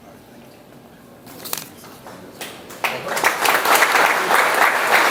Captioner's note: audience applauds